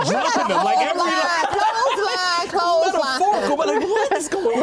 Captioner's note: all laugh